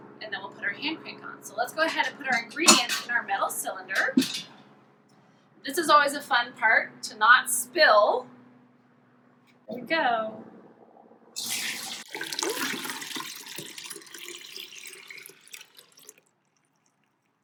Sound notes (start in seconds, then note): 11.3 pouring noise